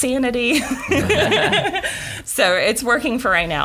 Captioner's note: laughing